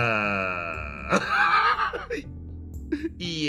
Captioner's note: laugh